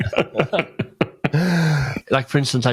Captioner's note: laughs